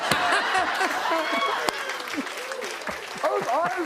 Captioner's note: cheers and applause